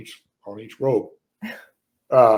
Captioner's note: stoner laughs